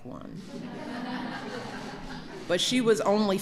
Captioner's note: laughter